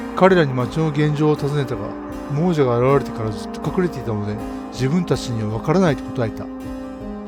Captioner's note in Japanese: none